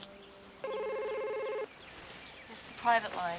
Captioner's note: phone ringing